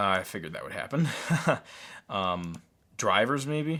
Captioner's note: laughs